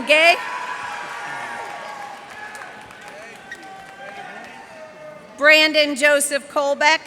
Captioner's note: cheers and applause